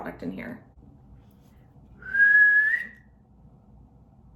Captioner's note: whistle